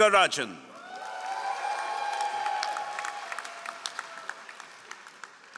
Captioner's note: all applauding